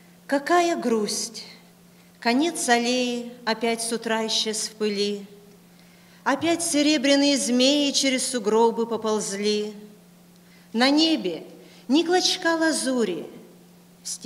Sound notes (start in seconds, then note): 3.0 foreign Language Spoken